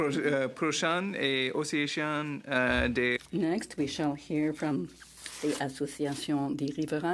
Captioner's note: speaking French